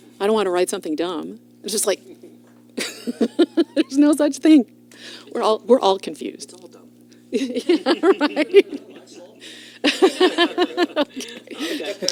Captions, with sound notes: I don't want to write something dumb. It's just like [LAUGHS] there's no such thing. We're all-- we're all confused. All dumb. Yeah, right. [LAUGHTER] OK.